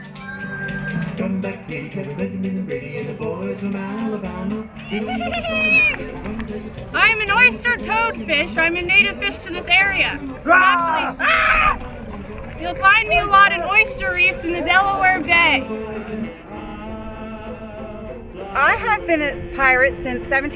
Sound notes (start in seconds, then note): 0.6 folk music plays; 5.7 laughs maniacally; 10.4 screams